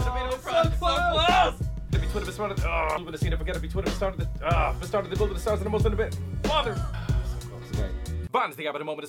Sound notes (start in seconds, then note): 2.7 groans; 4.3 groans; 5.4 rapping